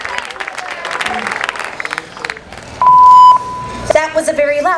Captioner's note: cheering; beep